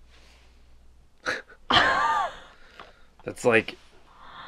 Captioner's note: laughing